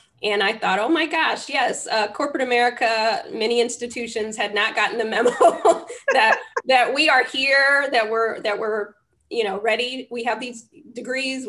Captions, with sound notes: And I thought, oh, my gosh, yes. Corporate America, many institutions had not gotten the memo (LAUGHS) that we are here they were ready. We have these degrees.